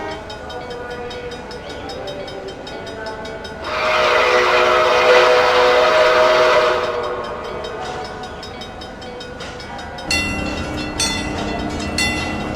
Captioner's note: C&O Greenbrier whistle, wig wag ringing